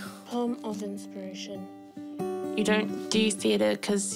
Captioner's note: none